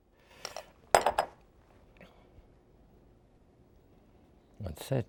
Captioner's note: bowl clattering